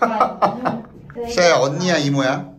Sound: laughs

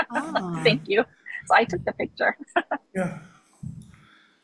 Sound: laughs

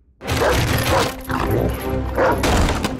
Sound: barking

